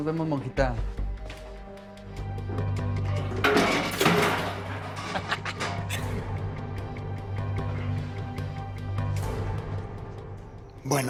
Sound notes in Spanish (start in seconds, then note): 3.5 Estruendo; 5.0 Risas